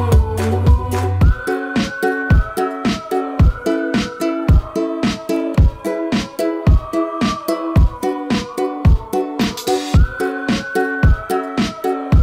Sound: whistling

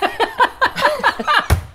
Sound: immature giggles

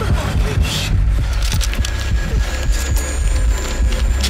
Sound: knuckles cracking

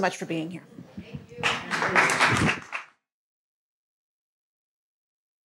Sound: audience applauds

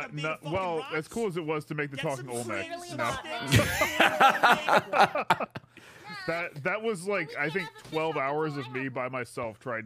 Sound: laughs

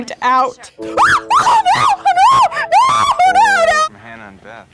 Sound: shrieks

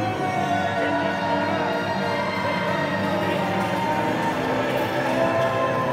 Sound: crowd cheering joyfully

